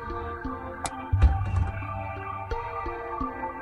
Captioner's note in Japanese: 扉を閉める音：バタン